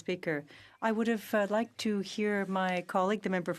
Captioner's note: speaking in French